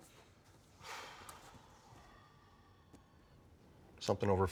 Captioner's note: sighs